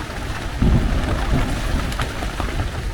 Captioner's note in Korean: 천둥번개, 비 바람 세트